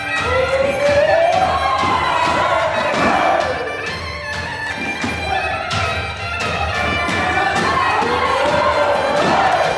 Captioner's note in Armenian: ծափահարություն